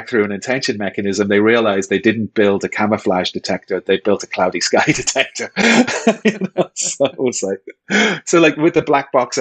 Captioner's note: chuckle